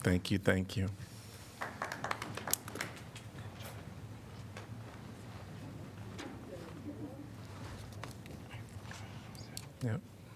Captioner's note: applause